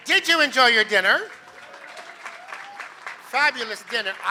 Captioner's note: applause